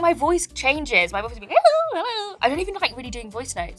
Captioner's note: speaks gibberish